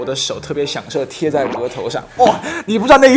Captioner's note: tap tap